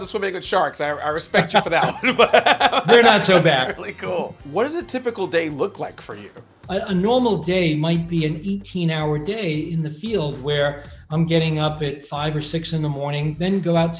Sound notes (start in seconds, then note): 1.3 laughter